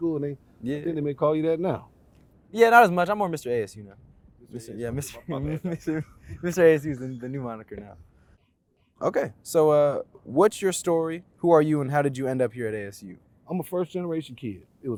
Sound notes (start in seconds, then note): 5.0 laughs